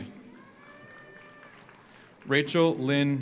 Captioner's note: audience cheers; audience applauds